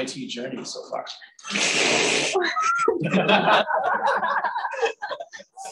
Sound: laughter

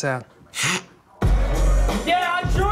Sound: scoffs; yelling

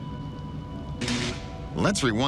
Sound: crackling

